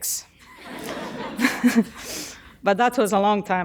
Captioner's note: audience laughing